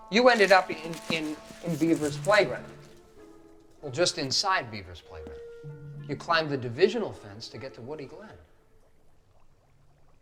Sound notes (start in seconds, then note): none